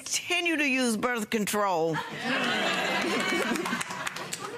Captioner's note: audience laughing